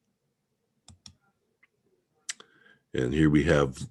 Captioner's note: mouse clicking